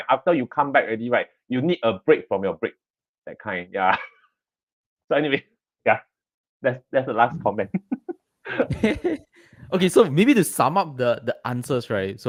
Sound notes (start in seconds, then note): 4.0 laughs; 8.4 laughter